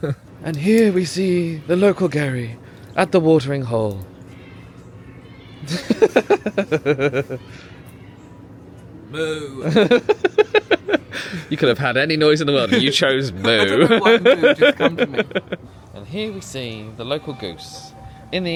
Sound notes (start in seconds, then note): 0.0 laughs; 6.0 laughing